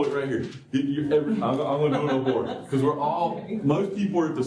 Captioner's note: laughter